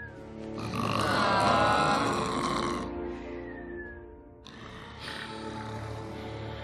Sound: groaning

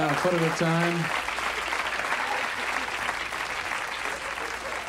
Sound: audience applauds

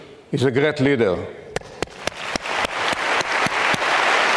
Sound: audience clapping

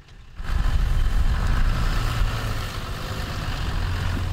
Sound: engine roaring

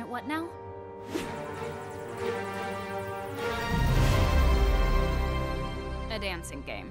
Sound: dramatic music; electronic beeps

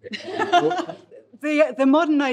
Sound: participants laughing

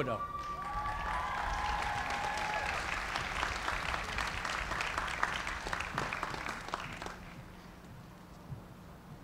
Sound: cheers and applause

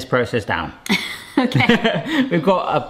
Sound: laughs

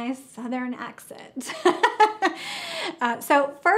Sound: laughs

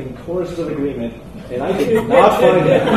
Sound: laughter from the room

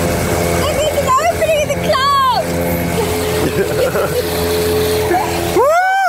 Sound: laughs

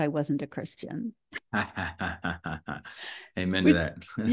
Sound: Jonathan laughs

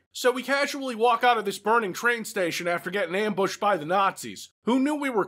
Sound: none

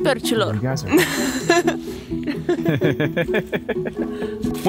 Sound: laughing

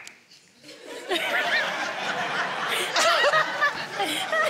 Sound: audience laughing

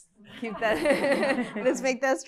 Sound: laughter

